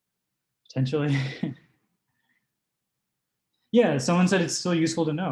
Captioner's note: chuckles